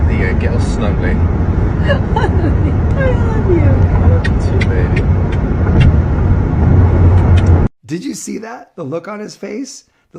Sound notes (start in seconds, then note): 7.2 lip smacking